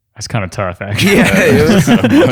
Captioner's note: laughter